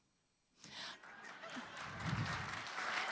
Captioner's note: applause